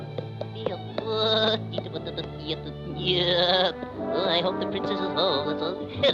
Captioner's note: vizier grumbling; horse clopping; Popeye humming